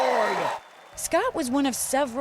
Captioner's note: cheering and applause